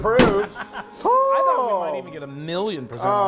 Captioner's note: laughing; moaning